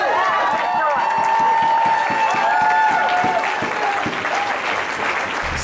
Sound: cheers

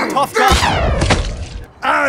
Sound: splat

